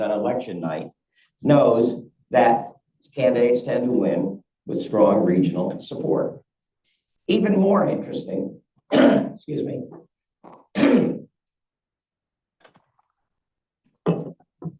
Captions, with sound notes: on election night knows that candidates tend to win with strong regional support. Even more interesting, (coughs) excuse me, (clears throat)